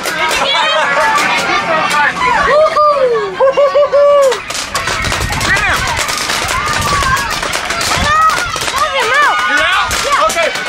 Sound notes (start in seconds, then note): 0.0 cheering; 0.2 laughs; 2.9 cheering; 3.2 laughing